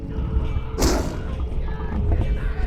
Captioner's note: screams